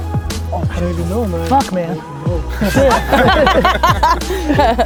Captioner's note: group laughter